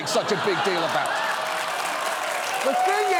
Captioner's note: audience laughs, applauds